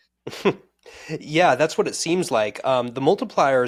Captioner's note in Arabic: يضحك